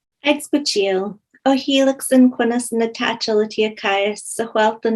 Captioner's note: speaking in foreign language